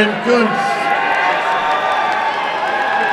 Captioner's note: applause and cheering